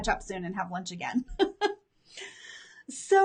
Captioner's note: laughs